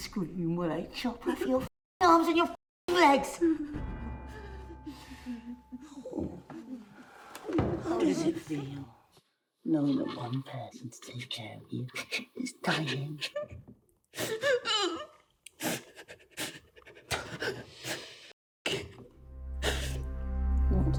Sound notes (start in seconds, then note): 14.3 Mia crying; 19.1 dramatic music